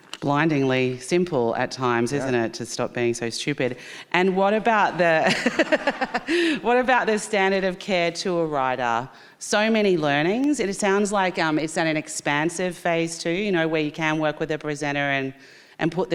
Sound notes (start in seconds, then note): 5.2 laughing; 5.2 audience laughing